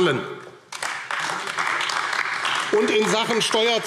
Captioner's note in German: Beifall AfD